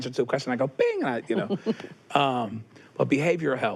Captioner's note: chuckles